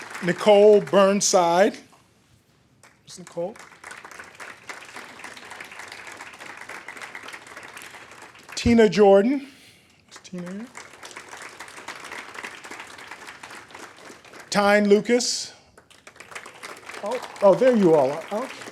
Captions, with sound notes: Nichole Burnside. (audience applaud) Where's Nichole? Tina Jordan. Where's Tina? (audience applaud) Tyne Lucas. (audience applaud) Oh, there you are.